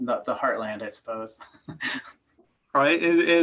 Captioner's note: chuckling